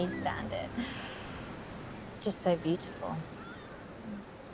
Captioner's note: chuckles